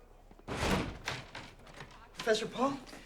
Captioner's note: door thuds